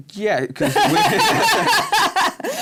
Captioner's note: laughter